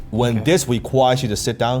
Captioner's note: air whooshing